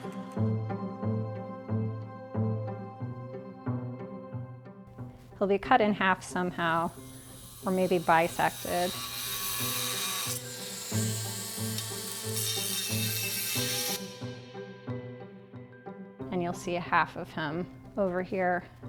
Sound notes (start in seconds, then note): 9.3 Dremel buzzing